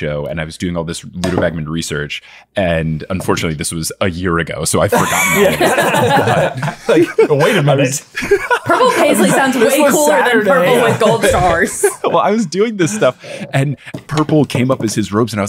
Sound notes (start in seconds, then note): 4.9 chuckling; 4.9 everyone laughing